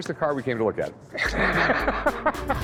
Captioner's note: laughter